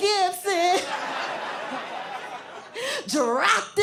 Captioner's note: laughter